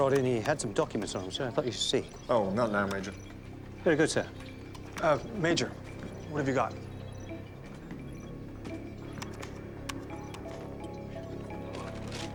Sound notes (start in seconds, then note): 8.6 keys clacking; 10.2 suspenseful music playing